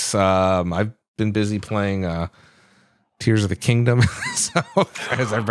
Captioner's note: laughs